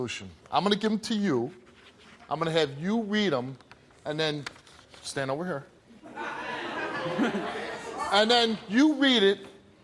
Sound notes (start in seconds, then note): 6.0 audience laughing